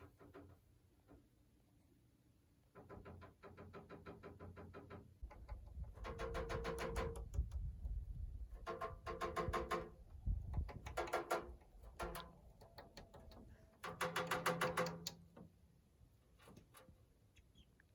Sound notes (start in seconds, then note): 0.2 bird pecking on metal; 5.7 bird pecking on metal